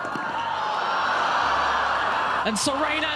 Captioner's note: crowd yelling